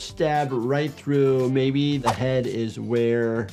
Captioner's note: graphics swishing